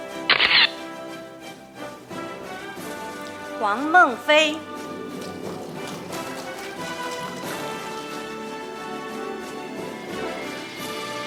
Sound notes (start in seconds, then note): 0.1 camera shatters; 5.0 audience applauding; 8.0 orchestral music